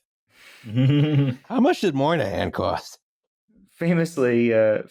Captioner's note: chuckles